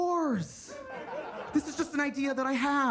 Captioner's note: attendees laughing